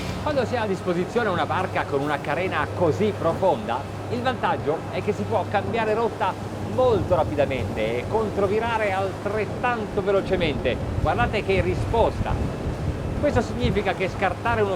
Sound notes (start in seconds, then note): 1.1 speaking in foreign language